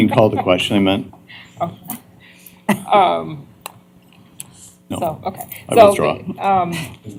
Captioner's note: laughter